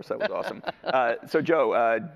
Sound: laughs

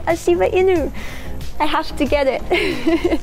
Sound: laughs

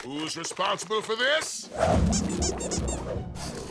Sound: squeaking

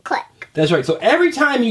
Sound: voiceover

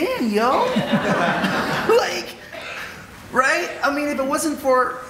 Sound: audience laughing

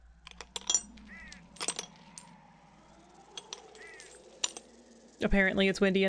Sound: metal clinking

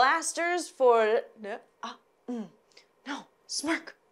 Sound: stumbling on words

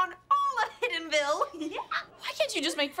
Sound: giggling

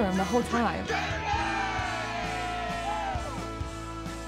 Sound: cheering

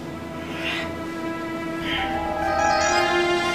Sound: Alex grunting

